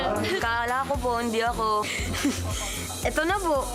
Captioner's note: giggle